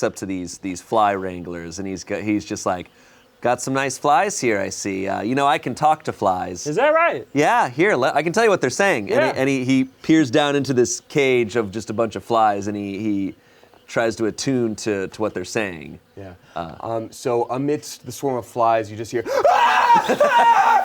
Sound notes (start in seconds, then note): 19.2 screams